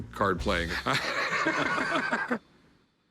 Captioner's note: laughter